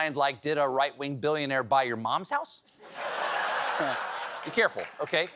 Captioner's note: laughter